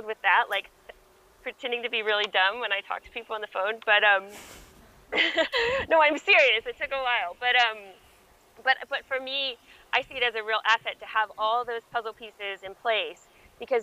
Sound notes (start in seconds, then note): 5.1 laughs